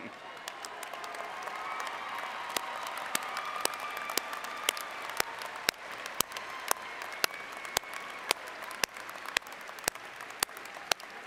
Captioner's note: applause